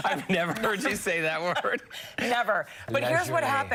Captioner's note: laughter